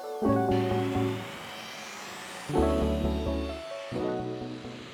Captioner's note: smooth music; tools whirring